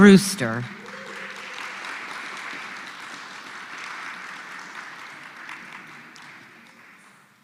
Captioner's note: applause